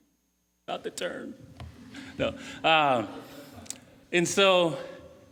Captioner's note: laughing